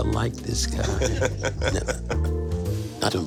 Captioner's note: laughing